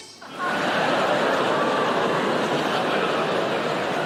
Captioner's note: audience laughing